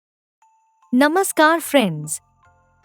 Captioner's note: excitement; harmony